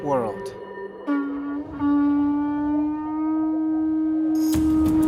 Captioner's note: blowing horn